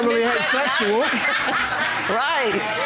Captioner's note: audience laughing